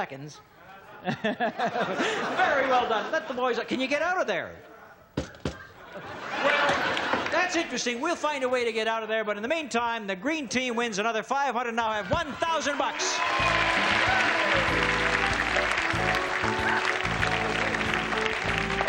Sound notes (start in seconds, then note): 2.4 laughter; 5.2 knocking; 8.1 audience laughs; 15.6 audience claps and cheers